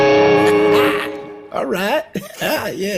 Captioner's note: laughs